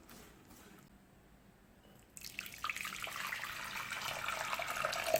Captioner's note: boiling